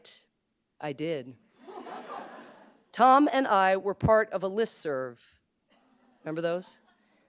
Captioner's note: laughter